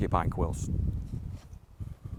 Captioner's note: wind blows